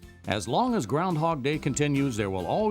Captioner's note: voiceover